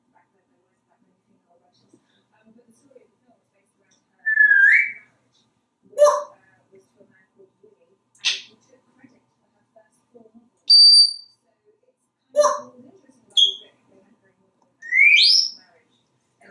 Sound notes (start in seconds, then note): 4.2 whistling; 7.9 smacking sound; 10.8 sort of beep; 13.1 squeaking; 14.8 whistling